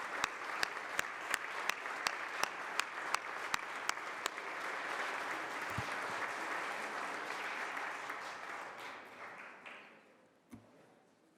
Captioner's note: applause